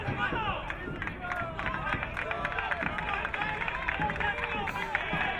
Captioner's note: crowd cheering